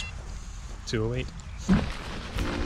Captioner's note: GARMIN chimes